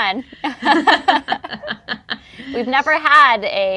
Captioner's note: laughs